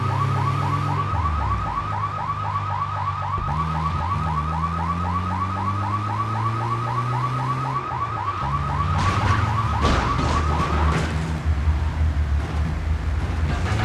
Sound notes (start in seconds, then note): 1.7 sirens blaring; 8.9 gun firing